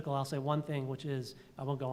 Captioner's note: none